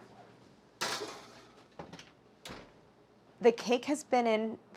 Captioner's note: pan clanging